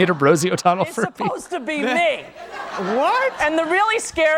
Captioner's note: laughs